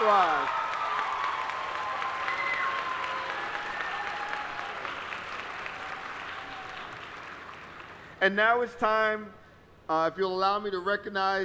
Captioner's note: applause